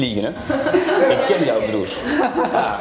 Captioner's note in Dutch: klas lacht